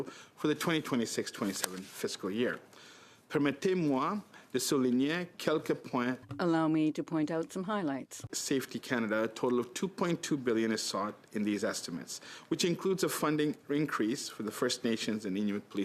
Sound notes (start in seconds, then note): 7.8 speaking French